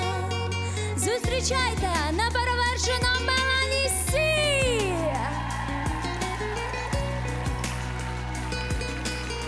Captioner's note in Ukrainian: оплески